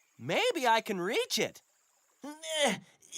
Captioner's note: grunts of effort